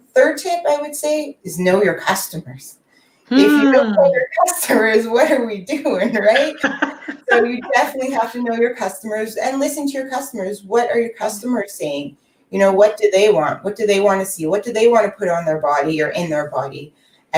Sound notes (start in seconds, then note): 6.1 laughing